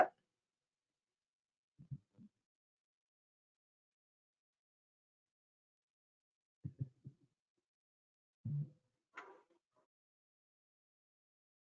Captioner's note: silence